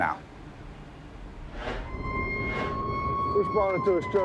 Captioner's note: sirens blaring